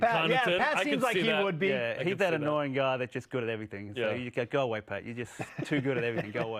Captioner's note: laughter